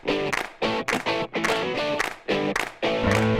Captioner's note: claps